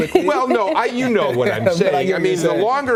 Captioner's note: laughter